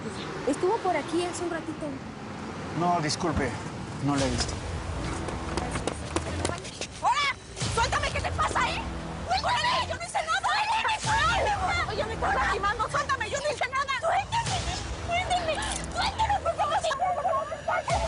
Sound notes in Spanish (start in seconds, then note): 10.1 Gritos de Margarita; 16.5 Gritos de Mónica y Margarita